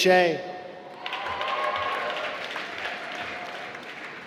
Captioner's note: applause